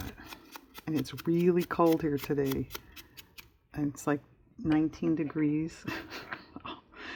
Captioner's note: laughs